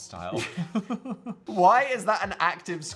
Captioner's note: Dan and Phil laugh